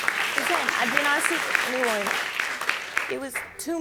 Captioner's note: audience clapping